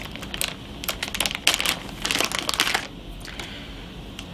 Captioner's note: bag crinkling